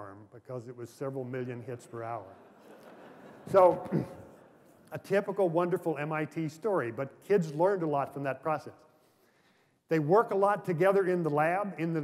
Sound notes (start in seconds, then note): 1.9 laughter